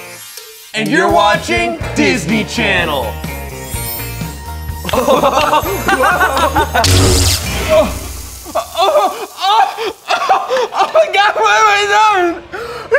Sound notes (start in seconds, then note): 4.9 laugh; 8.9 cries